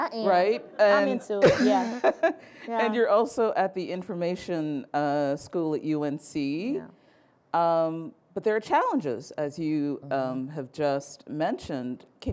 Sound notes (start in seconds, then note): 1.9 laughing